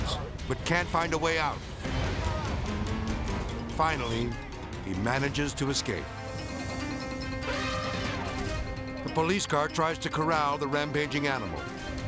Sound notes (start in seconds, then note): 1.4 edgy dramatic music; 7.2 elephant trumpeting; 11.9 edgy dramatic music